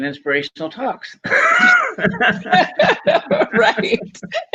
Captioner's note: laughing